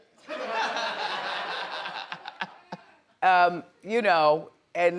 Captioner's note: audience members laughing